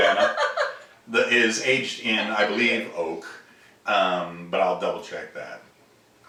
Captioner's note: laughing